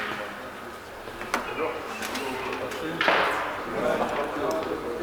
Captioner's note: metal clacks